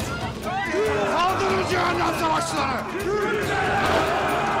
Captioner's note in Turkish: Bağırma sesleri